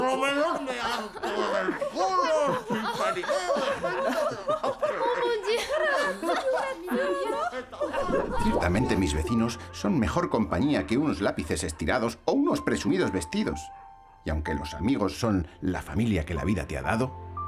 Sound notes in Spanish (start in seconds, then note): 3.7 habla francés; 5.2 habla italiano; 6.8 la risa continúa